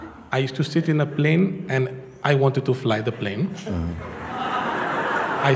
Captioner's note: Lachen